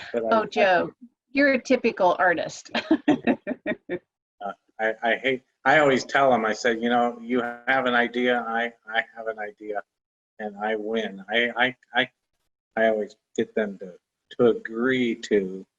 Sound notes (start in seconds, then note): 2.7 laughter